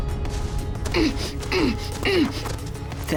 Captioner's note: grunting